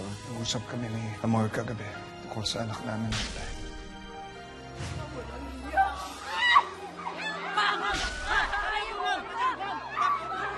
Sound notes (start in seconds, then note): 6.2 screaming